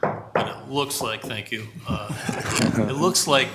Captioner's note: vice Chair knocking on wood